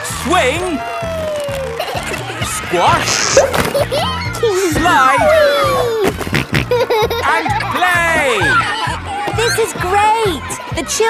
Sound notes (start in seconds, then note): 3.5 giggles; 5.9 snorting